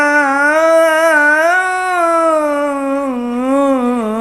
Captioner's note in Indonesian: berteriak